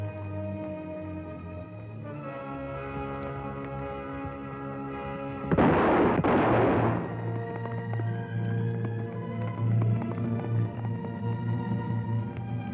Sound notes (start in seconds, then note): 5.4 gunshots; 10.8 horse trotting